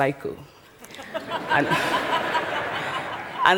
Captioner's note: laughter